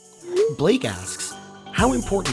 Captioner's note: voiceover